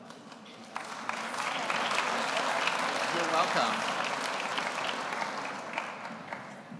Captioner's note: audience applauds